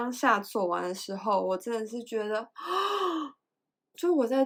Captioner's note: gasp